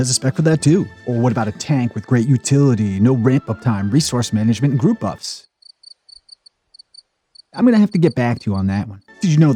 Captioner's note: cricket noise